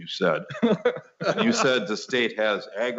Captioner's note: laughing